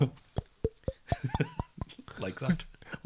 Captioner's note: impression of stupid glugging noises